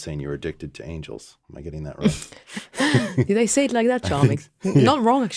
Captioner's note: laughs